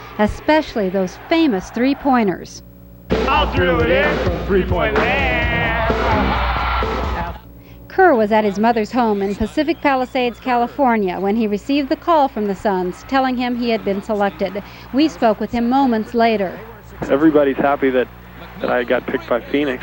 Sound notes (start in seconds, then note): 6.0 crowd chering